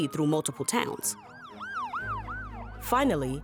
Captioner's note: sirens blare